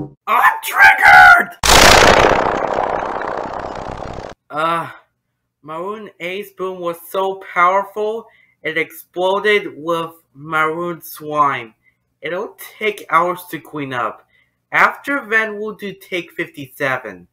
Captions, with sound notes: I'M TRIGGERED! (explosion) Uh, Maroon A's boom was so powerful. It exploded with Maroon Swine. It''ll take hours to clean up. After then, We'll do Take 57.